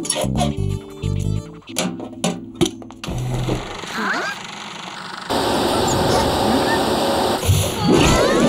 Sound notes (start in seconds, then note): 3.6 whirring